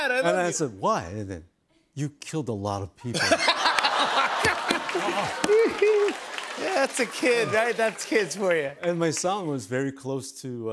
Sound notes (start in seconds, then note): 3.2 laughs